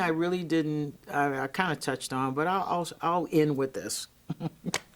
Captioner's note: giggling